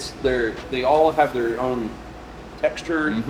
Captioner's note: none